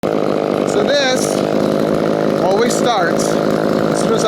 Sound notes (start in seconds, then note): 0.0 chainsaw whirring